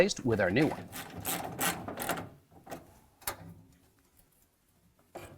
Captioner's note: ratcheting